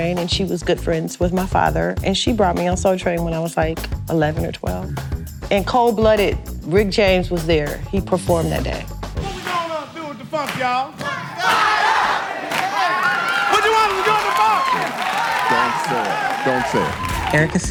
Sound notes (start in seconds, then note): 13.4 shouting; 14.9 crowd cheering